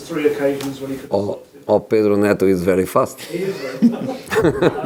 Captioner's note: laughing